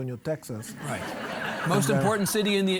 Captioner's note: audience laughing